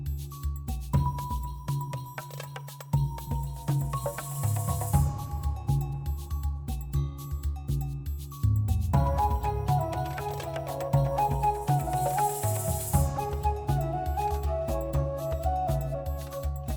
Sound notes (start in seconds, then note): none